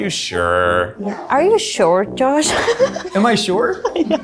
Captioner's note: laughs